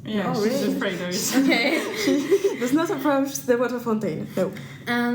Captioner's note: laughter